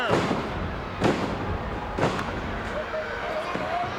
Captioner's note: ground slamming